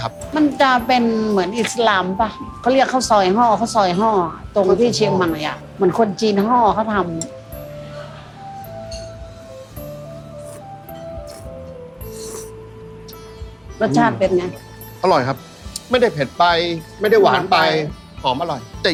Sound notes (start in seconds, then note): 6.2 chinese